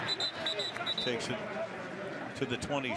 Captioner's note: whistle